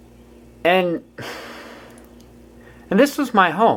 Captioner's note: sighs